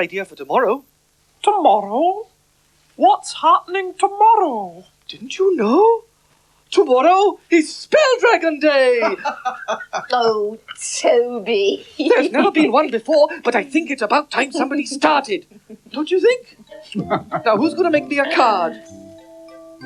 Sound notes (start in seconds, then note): 9.0 magician Laughs